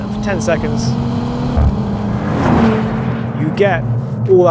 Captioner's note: vehicle revs